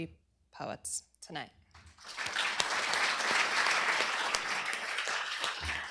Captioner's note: applause